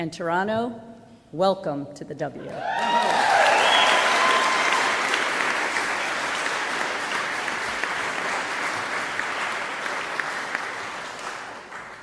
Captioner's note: applause